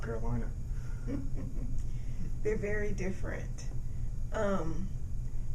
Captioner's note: laughing